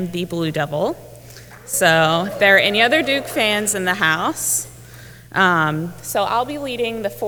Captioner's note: applause